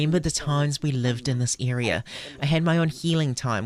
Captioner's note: speaking Alternate Language